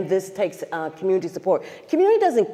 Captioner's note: stutters